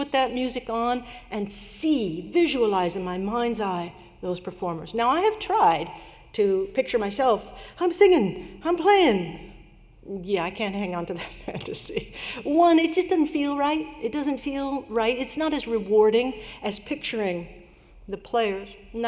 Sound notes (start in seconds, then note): 11.5 laughter